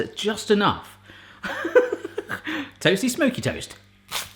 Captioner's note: laughing